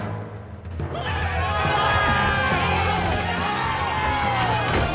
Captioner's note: yelling